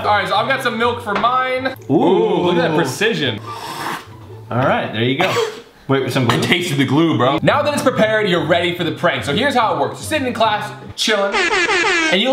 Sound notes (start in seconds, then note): 3.4 slurps; 5.2 coughs